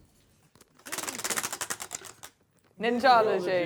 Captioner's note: ratcheting